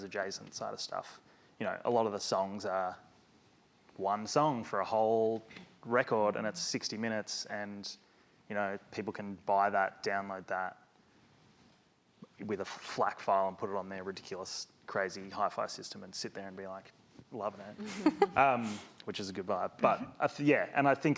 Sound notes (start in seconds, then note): 17.7 woman laughs